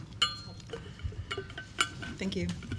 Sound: clinking

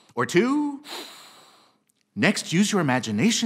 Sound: inhales deeply

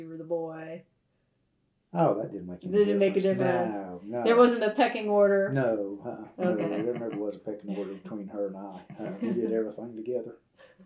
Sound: laughter

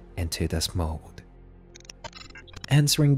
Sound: glitch sound effects

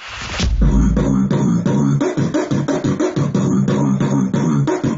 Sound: beatbox percussion

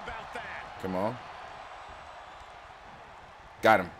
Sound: applause

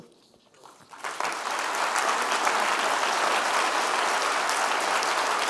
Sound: audience clapping

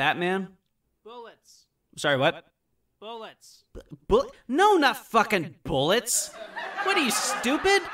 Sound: audience laughter

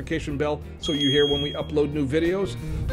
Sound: bell ringing

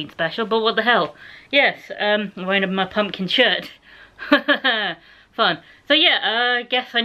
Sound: laughter

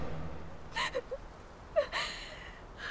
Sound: Googly sobbing

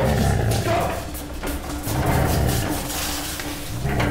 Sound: off-screen growling

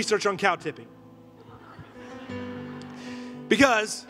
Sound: congregation laughing

